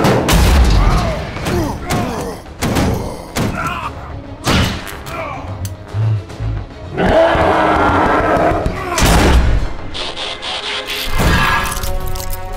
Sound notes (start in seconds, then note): 1.4 Prime groaning; 1.4 gorilla grunting; 6.9 gorilla roaring; 8.5 Prime grunts